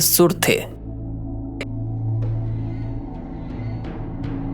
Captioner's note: speaking in foreign language